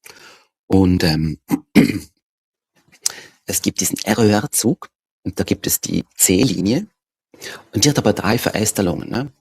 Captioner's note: clears throat